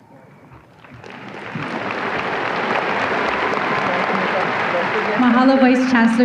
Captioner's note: audience applause